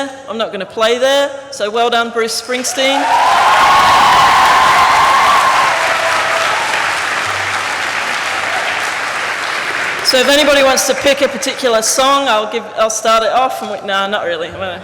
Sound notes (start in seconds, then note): 3.7 applause